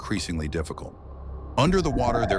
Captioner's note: underwater acoustics sequence